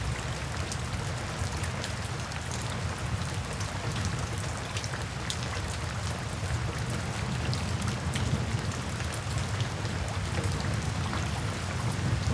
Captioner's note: rain sounds